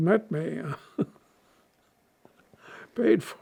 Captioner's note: laughing